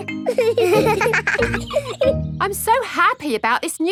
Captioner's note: both laughing